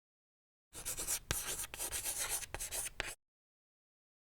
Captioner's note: scribbling noise